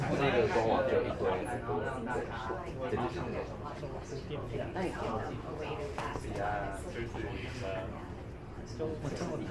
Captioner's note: speaking in foreign language